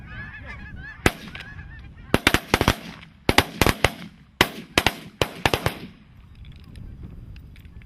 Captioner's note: gunshot